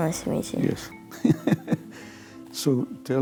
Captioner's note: laughter